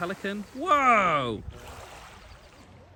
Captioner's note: water splashes